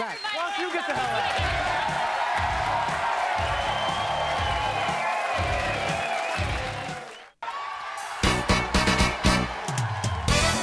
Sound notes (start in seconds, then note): 0.0 audience cheering; 1.2 edgy music